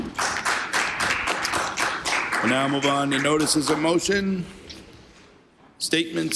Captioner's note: applause